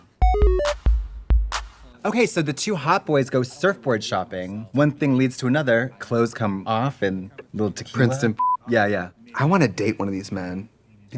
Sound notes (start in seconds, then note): 0.0 upbeat music; 8.4 beep